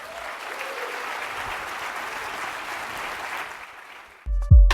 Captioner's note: applause